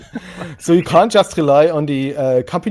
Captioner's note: laughing